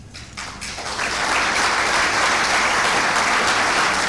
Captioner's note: clapping